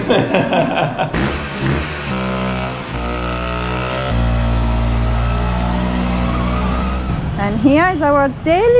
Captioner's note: laughing; auto engine